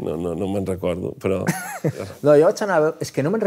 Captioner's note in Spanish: ríe